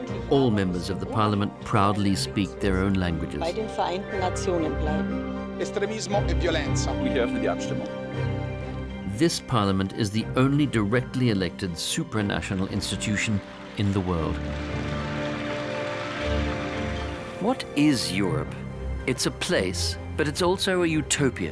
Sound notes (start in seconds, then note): 5.1 speaking various languages; 14.4 applause